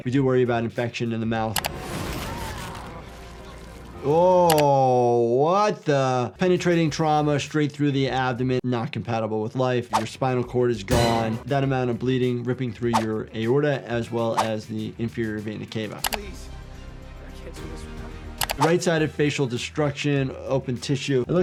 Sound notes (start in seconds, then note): 1.8 screen clicking; 10.8 dramatic music; 12.9 screen whooshing; 16.3 screen clicking